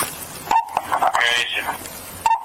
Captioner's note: radio chatter